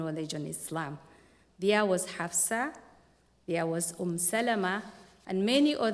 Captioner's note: non-english speech